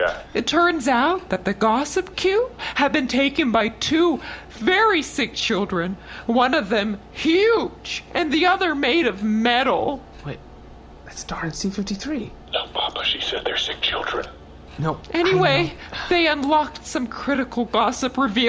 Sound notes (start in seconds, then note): 12.6 whispering